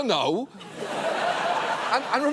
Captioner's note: audience laughs